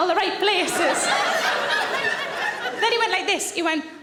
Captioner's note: audience laughing